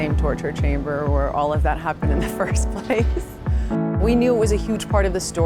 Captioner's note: laugh